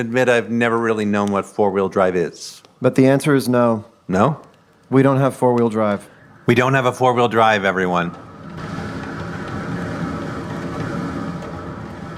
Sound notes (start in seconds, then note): 8.5 wind gusting